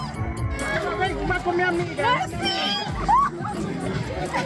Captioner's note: crowd cheering